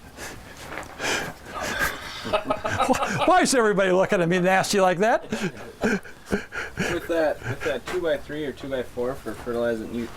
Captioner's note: laughing